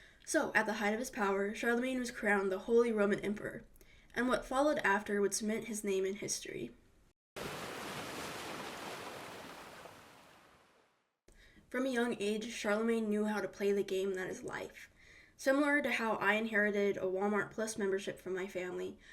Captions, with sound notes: So at the height of his power, Charlemagne was crowned the Holy Roman Emperor, and what followed after would cement his name in history. [waves crashing] From a young age, Charlemagne knew how to play the game that is life. Similar to how I inherited a Walmart Plus membership from my family,